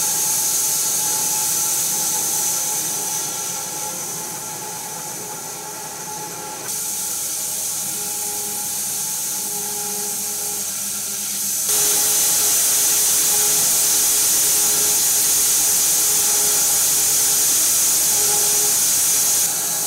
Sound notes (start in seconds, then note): 11.8 saw whirring continues